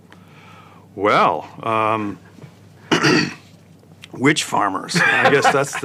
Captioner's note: cough; laugh